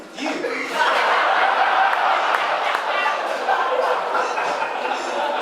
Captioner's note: audience laughing